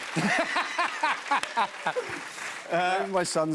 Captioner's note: laughter and applause; normal voice